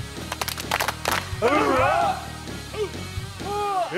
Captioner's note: clapping